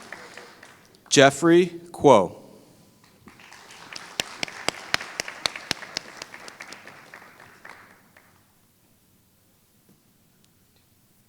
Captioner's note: applause; applause